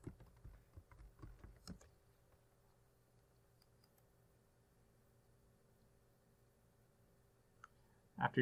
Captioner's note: typing